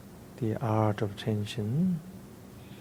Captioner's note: speaking in foreign language